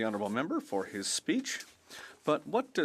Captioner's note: speaking French